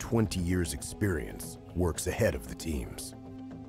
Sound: voiceover

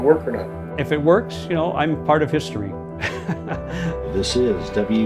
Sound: laughs

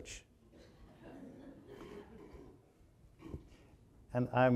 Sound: audience laughing

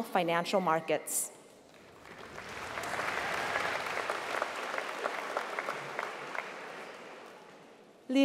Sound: applause

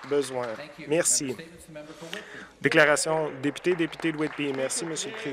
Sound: some Applause

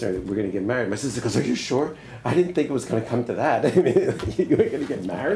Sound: laughs

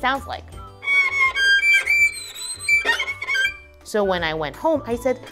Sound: screeching

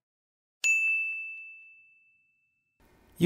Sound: bell tone

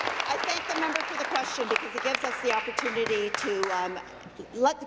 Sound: applause

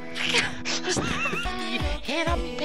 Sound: both laugh

